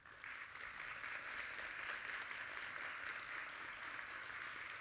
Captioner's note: audience applauding